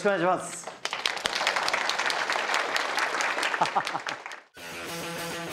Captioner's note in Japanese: 拍手